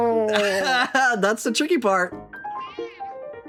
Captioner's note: laughing